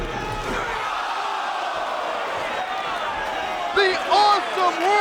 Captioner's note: crowd cheering